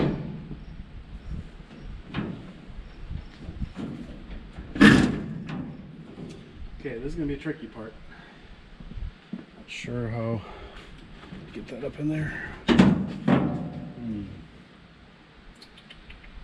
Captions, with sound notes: Okay, this is gonna be the tricky part. Not sure how to get that up in there. (metal clanking)